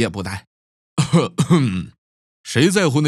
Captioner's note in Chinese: 咳嗽